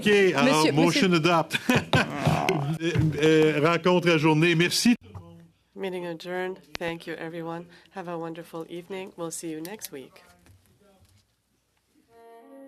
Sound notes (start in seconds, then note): 1.4 laughter